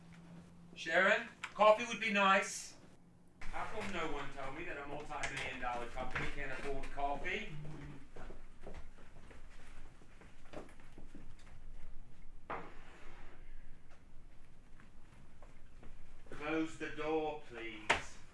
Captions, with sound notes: Sharon, coffee would be nice. How come no one told me that a multimillion dollar company can't afford coffee? (footsteps tapping) Close the door please.